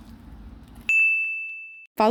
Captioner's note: buzzer ding